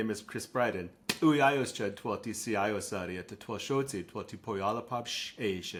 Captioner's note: speaking Lushootseed